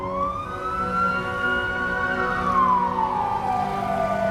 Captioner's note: siren wailing